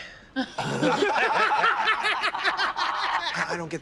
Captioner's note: laughter